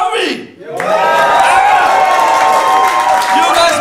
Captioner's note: audience cheers